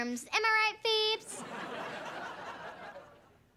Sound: laughing

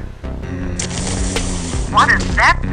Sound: zombie moaning

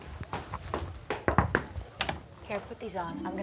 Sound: door knocks

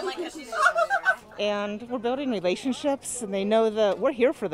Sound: laugh

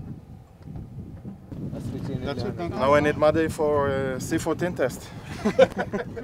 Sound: laughing

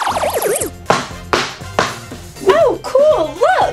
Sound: knocking

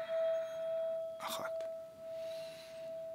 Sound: inhale

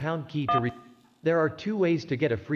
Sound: key tone

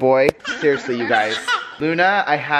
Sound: laughing

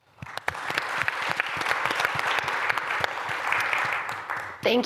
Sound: applause

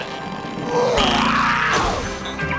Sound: screaming

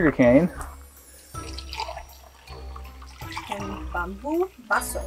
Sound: liquid gurgles; speaking in foreign language

